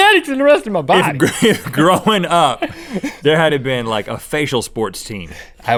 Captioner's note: laughs